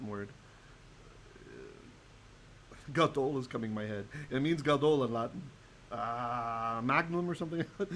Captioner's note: Hebrew